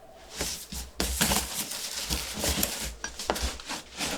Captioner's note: box rustling